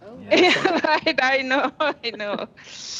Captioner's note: laughter